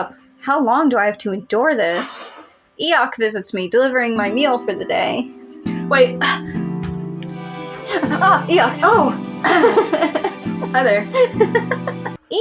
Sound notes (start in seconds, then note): 5.6 romantic Music; 7.2 laugh; 7.9 romantic Music; 10.0 clears Throat; 10.6 romantic Music; 12.0 laugh